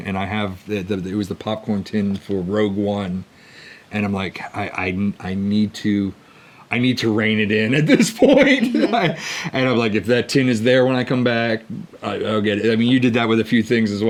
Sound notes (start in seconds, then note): 8.1 laughs